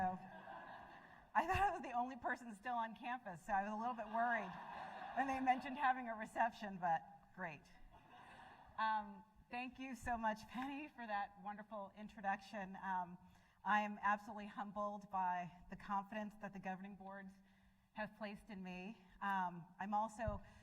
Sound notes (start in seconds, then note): 0.2 laughter; 4.0 laughter